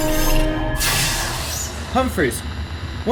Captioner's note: laser blast; radio static